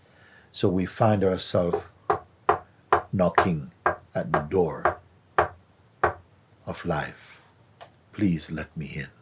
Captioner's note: knocking sound